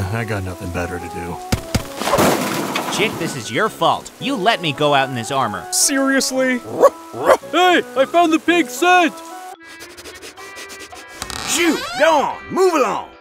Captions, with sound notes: - I got nothing better to do. - Chick, this is your fault. You let me go out in this armor. - Seriously? (wolf barks) Hey, I found the pig's scent! (dogs sniffing) - Shh, go on, move along!